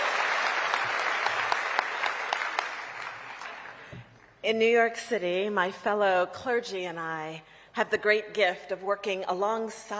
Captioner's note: applause